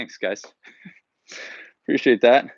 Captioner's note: chuckles